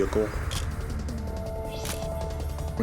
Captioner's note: camera shutter click